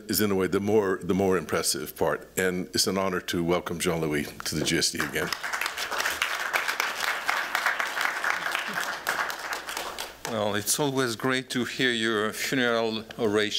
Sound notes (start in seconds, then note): 4.9 applause